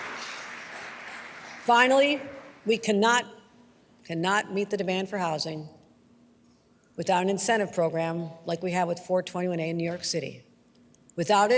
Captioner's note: applause